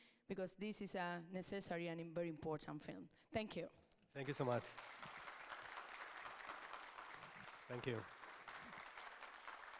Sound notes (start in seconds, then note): 4.2 audience applauds